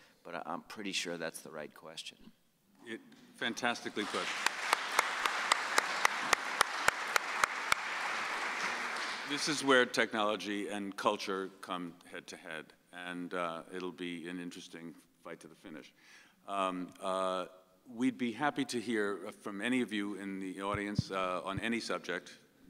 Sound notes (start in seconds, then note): 3.6 audience applauds